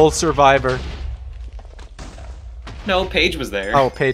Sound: explosions

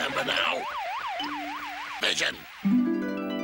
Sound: Pac-Man noises

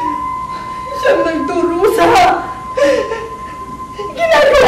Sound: sobbing

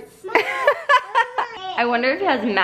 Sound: laughs

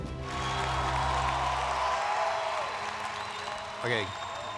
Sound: applause

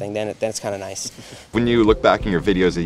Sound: laughs

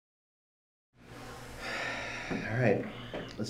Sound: sighs

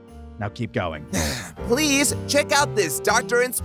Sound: sighs

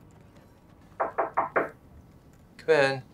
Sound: knocking

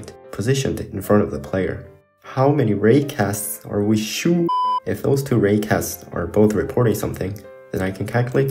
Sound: beep

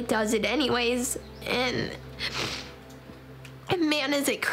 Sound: sniffles

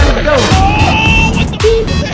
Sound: beep; screaming

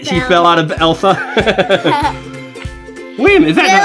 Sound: both laughing

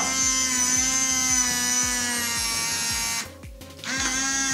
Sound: machine whirs

